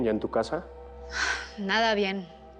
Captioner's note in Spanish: Suspiros